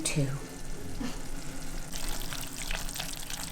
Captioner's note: sizzling